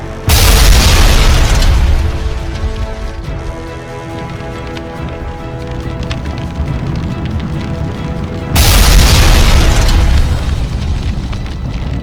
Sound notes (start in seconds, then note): 0.2 explosion booms; 4.0 flames whooshing; 8.5 explosion booms